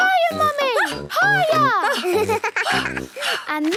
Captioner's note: giggles; panting